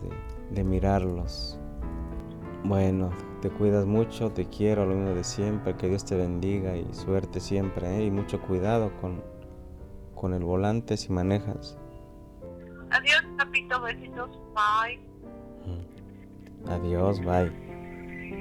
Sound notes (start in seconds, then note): 13.4 mujer por teléfono